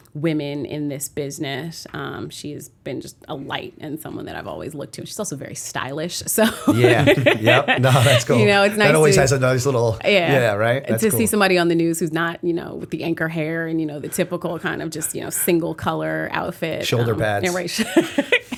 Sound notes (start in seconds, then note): 6.4 laughter